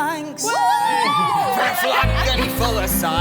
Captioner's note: group cheer